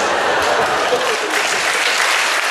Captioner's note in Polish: oklaski; śmiech